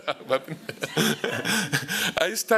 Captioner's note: laughter